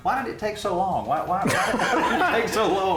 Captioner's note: laughter